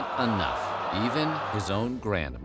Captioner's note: crowd groaning